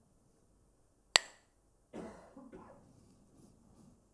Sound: Mooji clacks the sticks

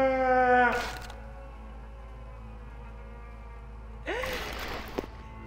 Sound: stick snapping; woman gasps

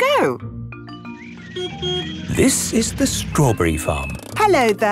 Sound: beeps

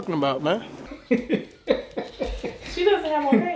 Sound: laughing

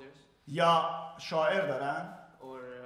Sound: speaking in farsi

